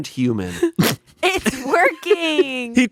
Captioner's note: laughing